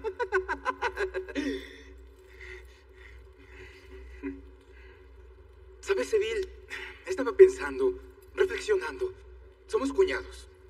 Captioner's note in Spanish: Ríe